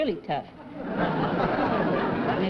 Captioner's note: laughter